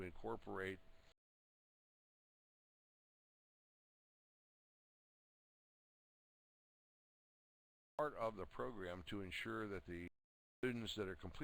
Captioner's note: audio drops